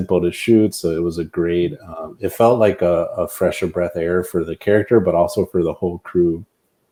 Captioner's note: none